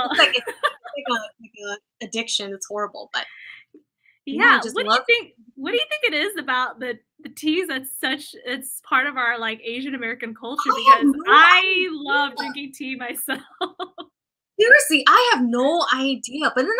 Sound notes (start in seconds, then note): 13.4 laughter